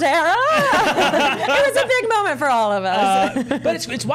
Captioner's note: all laughing; chuckles